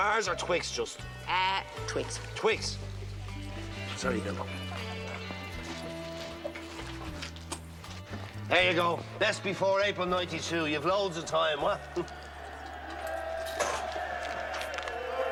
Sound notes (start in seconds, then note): 11.9 Aplausos